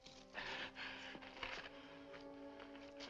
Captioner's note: gasping